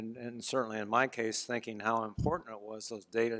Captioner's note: none